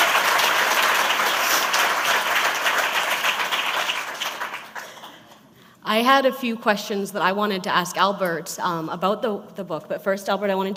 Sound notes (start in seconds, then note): 0.0 applause